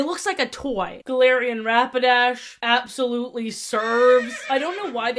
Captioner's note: horse neigh sfx